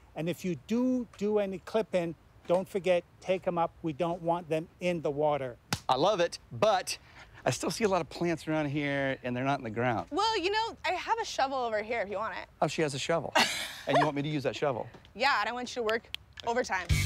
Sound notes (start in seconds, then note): 13.3 chuckles